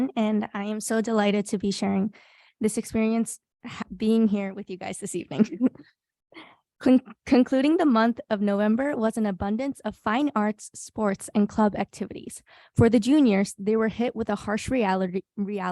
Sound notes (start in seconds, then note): 5.3 person laughing